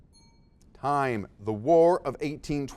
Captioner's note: dings